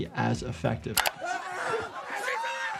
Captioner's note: mourners exclaiming